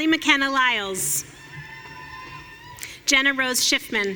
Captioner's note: audience cheering